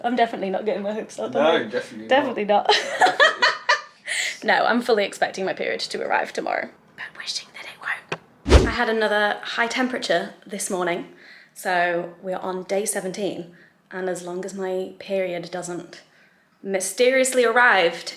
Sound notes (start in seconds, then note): 2.7 laughing; 8.4 whooshing sound